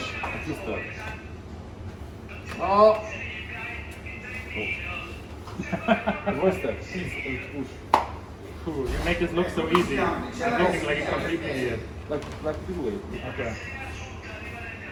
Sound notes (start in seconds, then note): 1.0 speaking in foreign language; 5.5 laughing